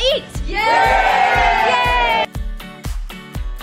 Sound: cheers; upbeat music

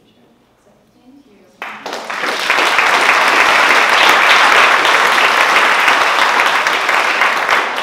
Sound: applause

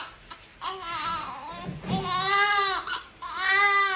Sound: baby crying

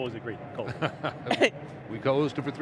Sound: laughs

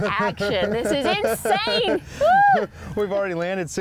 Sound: laughing

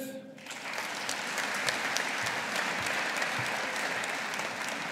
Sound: audience applauding

